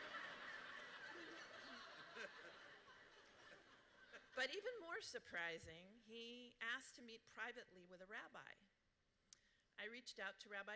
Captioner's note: laughter